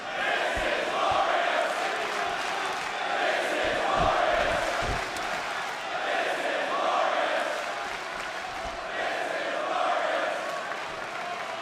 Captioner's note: crowd cheering